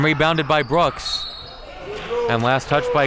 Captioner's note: whistle blows